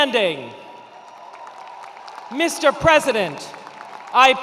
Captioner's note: attendees cheering and applauding